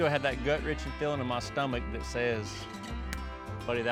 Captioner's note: pounds fist